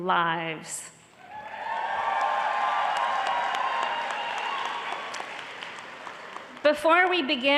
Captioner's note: applause